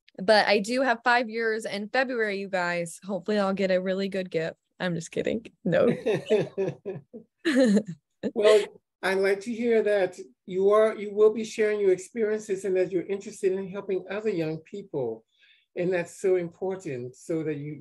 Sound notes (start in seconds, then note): 5.8 both giggle